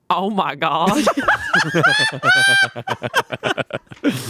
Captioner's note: laughing